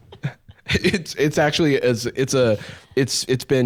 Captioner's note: laughs